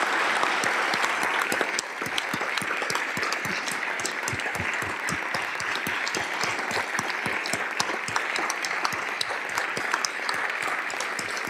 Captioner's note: applause